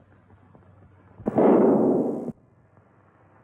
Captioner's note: gunshot